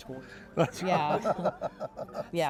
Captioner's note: laughs